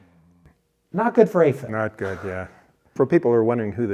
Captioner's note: laughs